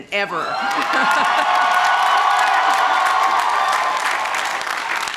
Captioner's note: crowd cheering